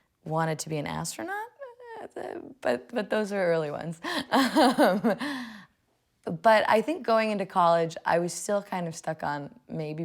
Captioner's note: laughing